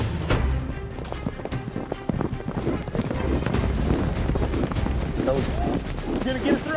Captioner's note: chute opens; hoofbeats